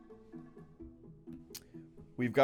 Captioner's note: lip smack